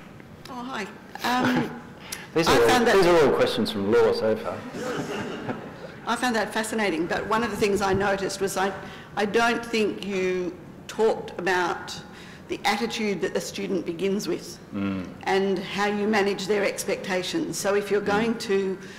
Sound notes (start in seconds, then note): 4.6 laughter